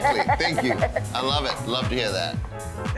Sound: laughing

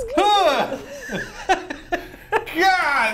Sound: giggles

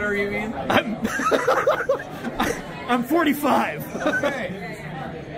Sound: laughing

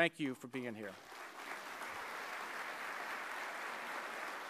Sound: applause

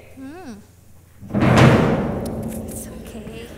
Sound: thunderstorms

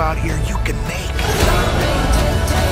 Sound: roaring

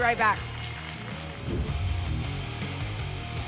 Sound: whoosh

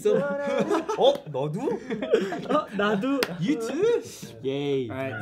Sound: singing; speaking in Korean

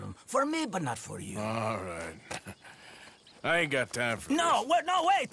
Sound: laughs

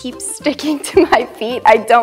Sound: laughing

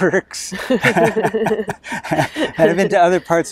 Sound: both laugh

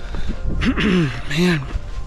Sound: clearing throat

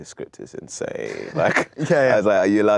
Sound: laughs

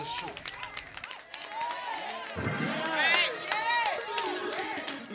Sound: crowd clapping and cheering

